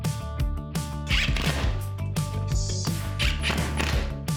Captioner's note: drilling